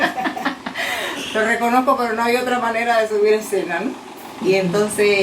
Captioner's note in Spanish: se ríe